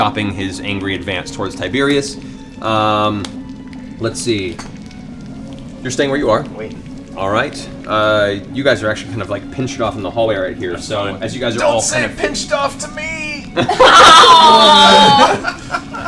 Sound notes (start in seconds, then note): 12.7 strained; 13.5 laughter